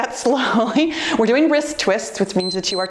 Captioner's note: timer beeps